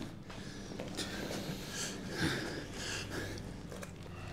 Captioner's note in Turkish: Nefes sesi